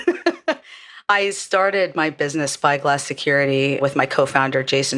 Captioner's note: laugh